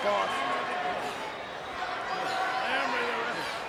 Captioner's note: crowd yelling